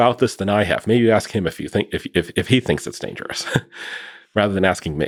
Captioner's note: laughing